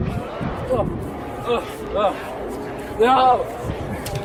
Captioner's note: monster running; monster growling; monster running; Mac grunting